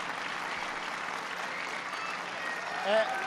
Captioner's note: applause